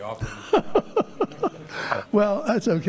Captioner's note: laughing